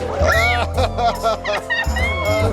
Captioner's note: kids squeal; family laughs